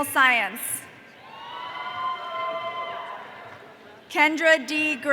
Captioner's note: audience cheering